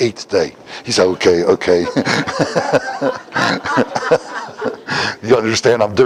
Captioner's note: Смех